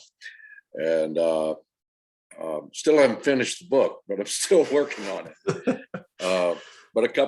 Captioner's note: laughter